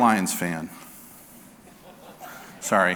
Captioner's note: audience laughing